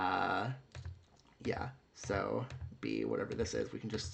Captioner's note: clicking around